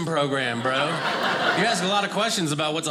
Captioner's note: audience laughing